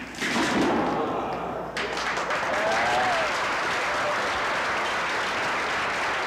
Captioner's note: applause